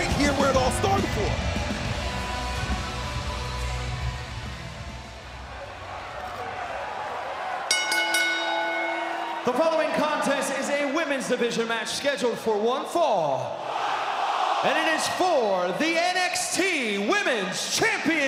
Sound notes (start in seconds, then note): 7.7 bell ringing; 13.5 crowd cheering